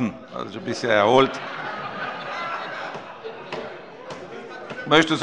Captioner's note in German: Heiterkeit